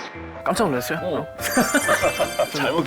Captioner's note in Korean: 꺄르륵